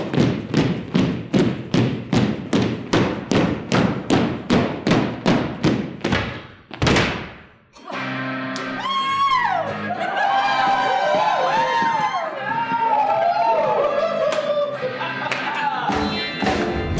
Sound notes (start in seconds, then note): 0.0 stomping; 5.3 pounding sticks; 8.5 all dancers cheering; 14.7 rock music